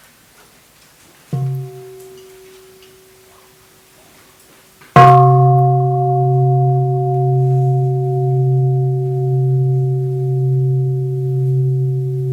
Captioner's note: first sound of the bell